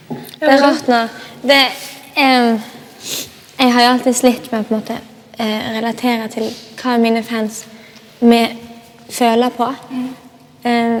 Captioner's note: whispers